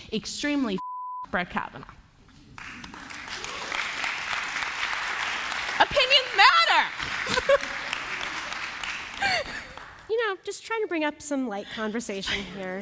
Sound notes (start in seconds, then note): 2.5 applause; 7.2 laughter